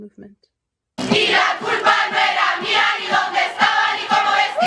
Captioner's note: non-english speech